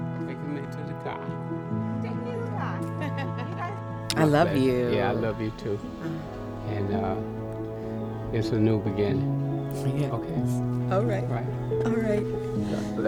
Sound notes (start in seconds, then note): 3.0 both laughing